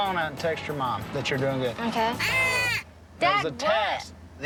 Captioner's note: blows duck call